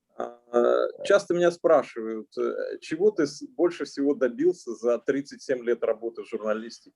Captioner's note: translator speaking Russian language; speaking Russian language